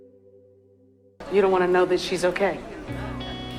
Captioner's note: voiceover